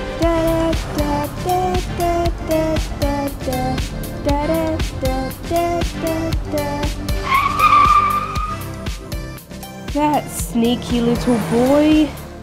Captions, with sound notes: Da-da, da, da, da, da, da ,da... Da-da, da, da, da, da, da ,da... (Screech!!!) That sneaky little boy!